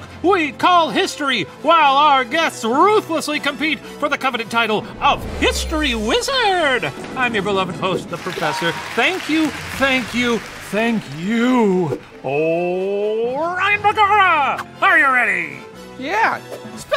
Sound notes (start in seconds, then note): 11.1 audience applauds